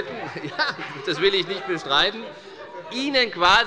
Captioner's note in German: Große Heiterkeit